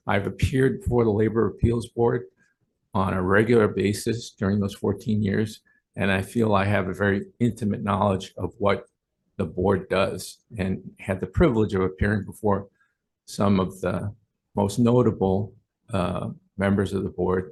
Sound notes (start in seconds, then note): none